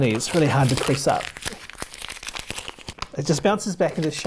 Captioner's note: paper crinkling